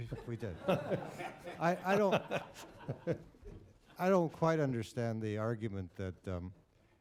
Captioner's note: laughter